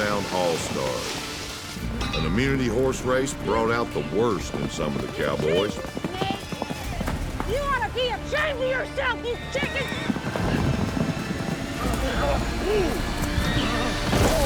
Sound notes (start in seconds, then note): 6.1 yelling